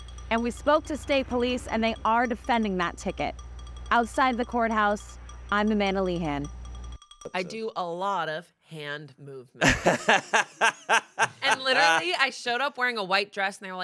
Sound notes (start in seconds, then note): 9.6 laughs